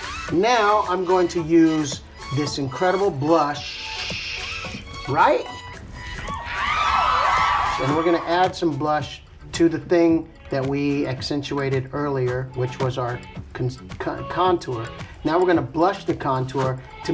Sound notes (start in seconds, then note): 6.2 crowd cheering